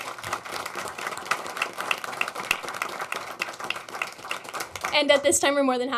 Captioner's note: applause